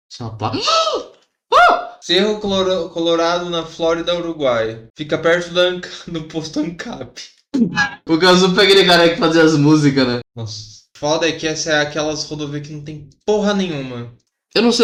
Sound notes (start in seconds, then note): 5.1 laughing